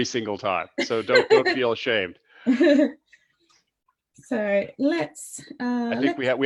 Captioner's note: laughs; laughs